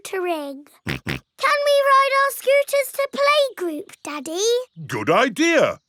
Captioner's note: snorts